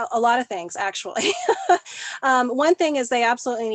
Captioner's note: laughing